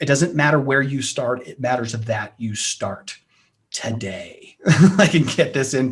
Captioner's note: chuckles